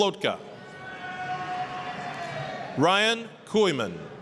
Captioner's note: applause, cheering